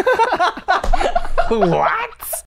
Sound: laughter

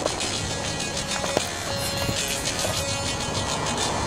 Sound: electronic dance music; gravel crunching

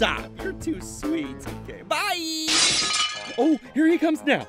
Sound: glass breaking

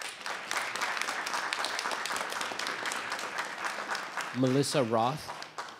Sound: audience applauding

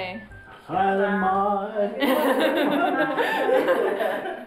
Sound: laughter

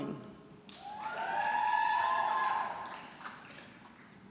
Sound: audience cheering

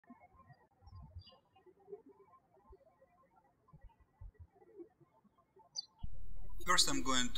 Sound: bird chirping

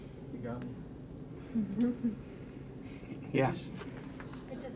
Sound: chuckling

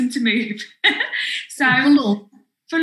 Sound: laughs

